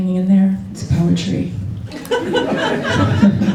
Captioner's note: laughter